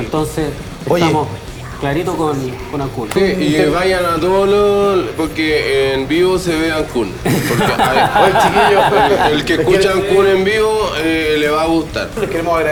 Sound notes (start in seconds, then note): 7.2 laughter